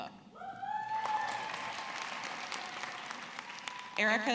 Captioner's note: audience clapping